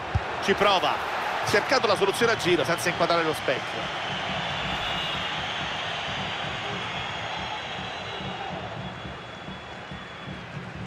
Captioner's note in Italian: Applauso